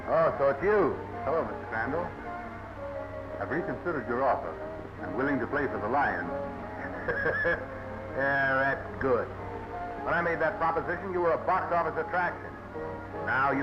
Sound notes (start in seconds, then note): 6.7 laughing